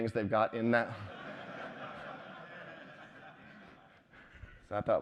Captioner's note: laughter